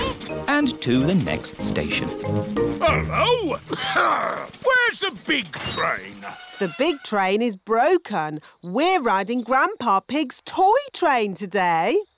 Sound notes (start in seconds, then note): 2.8 coughs